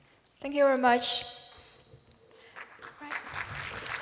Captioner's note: applause